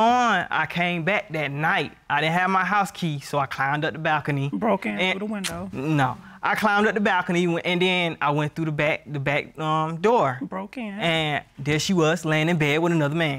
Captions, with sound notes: I came back that night, I didn't have my house key, so I climbed up the balcony. -Broke in through the window. -And... [clicks tongue] No, I climbed up the balcony and then I went through -the back-- the back door. -Broke in. And there she was laying in bed with another man.